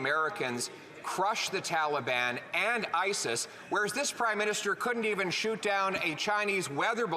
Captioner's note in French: voix de l'interprète